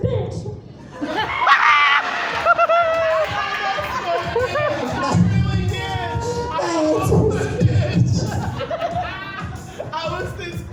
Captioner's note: speaking over the crowd; audience hooting and hollering